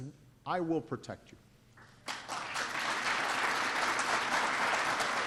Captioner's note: applause